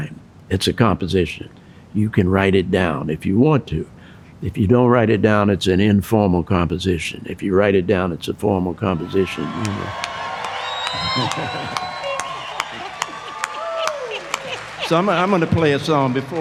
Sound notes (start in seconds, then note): 10.2 audience applause; 10.8 laughing